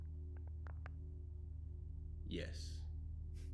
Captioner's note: knuckles crack